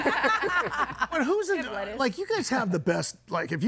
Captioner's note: guests laughing